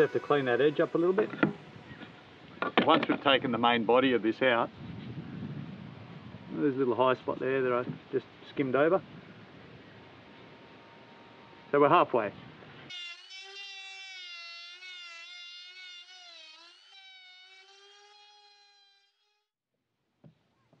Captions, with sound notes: We have to clean that edge up a little bit. Once we've taken the main body of this out, there's a little high spot there that I just skimmed over. So we're halfway. (sander whirring)